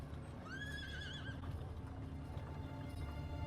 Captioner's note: horse whinnies; suspenseful music